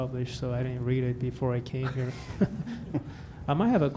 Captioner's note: laughter